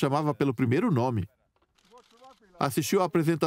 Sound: voiceover

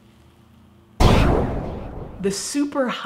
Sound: explosion sfx

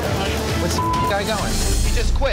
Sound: beep

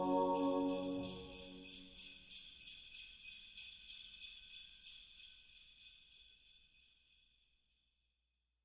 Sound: sleigh bells

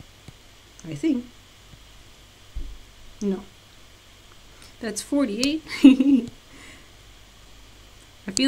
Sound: laughs

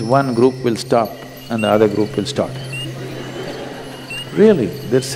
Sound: laughter

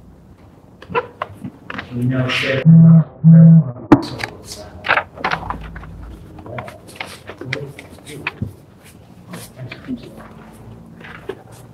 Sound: phone vibrates

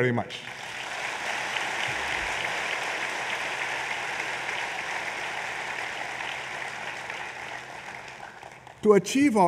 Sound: applause

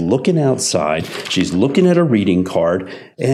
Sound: papers shuffling

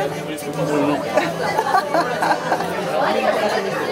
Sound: laughs

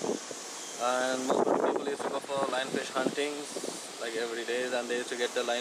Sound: wind blows

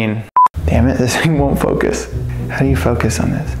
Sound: beeping

